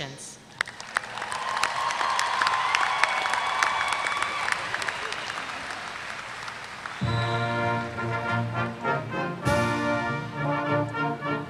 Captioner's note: applause